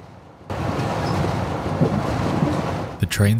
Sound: train rattles

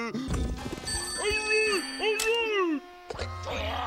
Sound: phone ringing; Robotnik snarling over phone

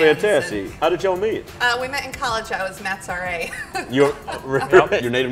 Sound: laughs

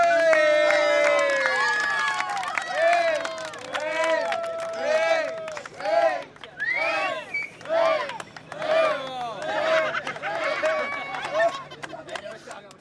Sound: cheering

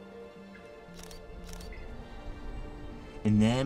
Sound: shutter clicking

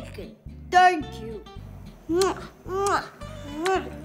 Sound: kissing noises

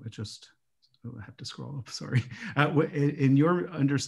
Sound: chuckles

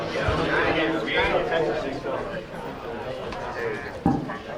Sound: group chattering

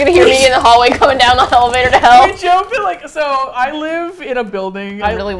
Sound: laughs; laughs

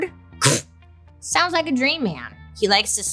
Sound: scoffs

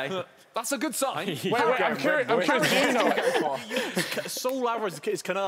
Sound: loud chattering

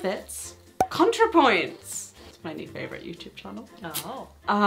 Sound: cork popping

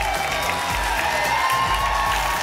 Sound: applause and cheering cont

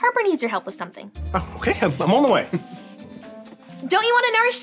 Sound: chuckling

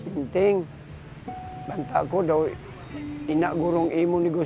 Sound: speaks in local dialect

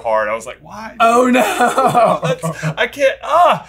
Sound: laughing

